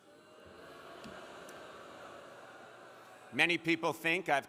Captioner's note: crowd booing